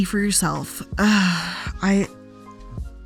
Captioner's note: sighs